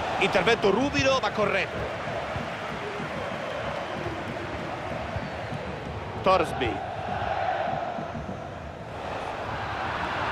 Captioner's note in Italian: Applauso